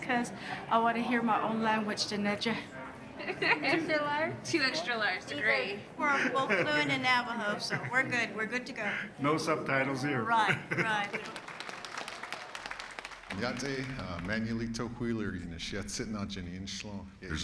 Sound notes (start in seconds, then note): 6.0 laughing; 10.7 audience applauding; 13.5 speaking Navajo